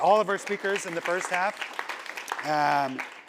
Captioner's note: applause